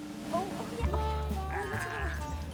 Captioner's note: chatting excitedly